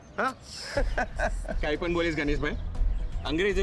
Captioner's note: all laughing